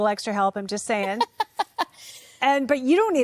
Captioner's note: laughs